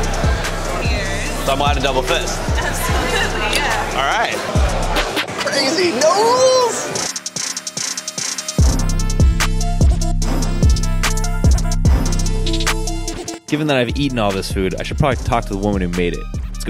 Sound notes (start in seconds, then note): 0.1 hip hop beat; 3.8 clinks glasses together; 7.2 hip hop beat